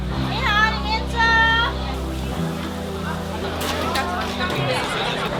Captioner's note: speaking Mandarin